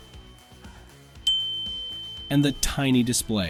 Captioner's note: bell Sound